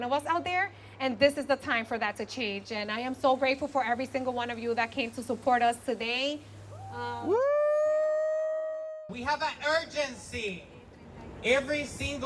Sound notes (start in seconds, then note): 6.7 cheering